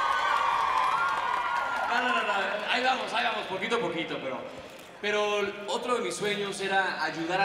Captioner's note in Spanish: Gritos